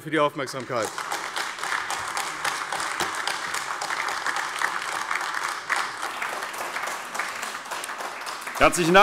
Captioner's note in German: Beifall AfD